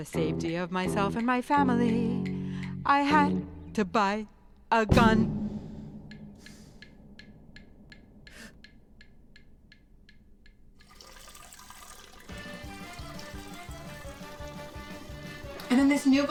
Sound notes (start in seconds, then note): 6.0 metronome ticking; 12.3 upbeat music